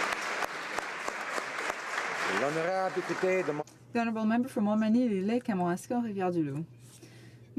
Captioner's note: applause